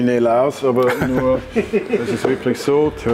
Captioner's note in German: Gelächter